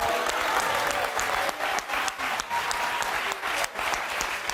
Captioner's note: audience applauding